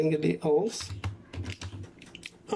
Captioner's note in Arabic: صوت لوحة مفاتيح